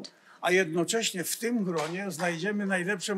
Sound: foreign language

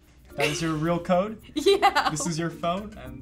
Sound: laughs

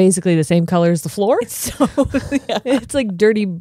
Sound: laughs

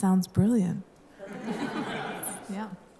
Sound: laughter

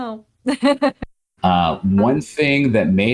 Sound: laughs

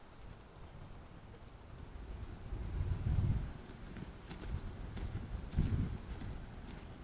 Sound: wind blowing; birds chirping

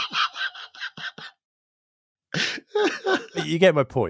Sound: man laughing

